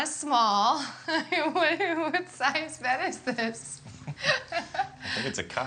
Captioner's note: laughs